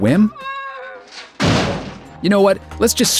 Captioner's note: crash